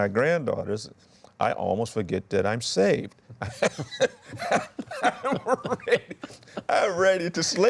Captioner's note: laughs